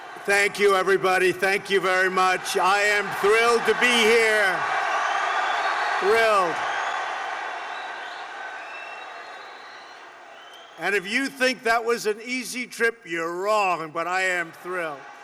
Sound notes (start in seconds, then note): 2.6 applause; 5.6 applause